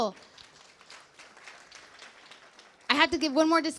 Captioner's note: clapping